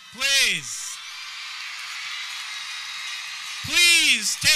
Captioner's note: audience cheering